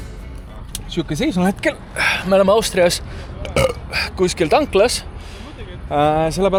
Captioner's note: burp